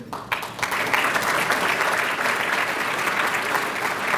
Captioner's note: applause